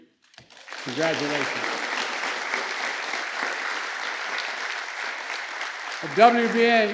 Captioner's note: applause